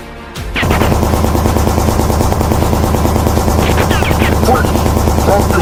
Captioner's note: gunshots banging; gun cocking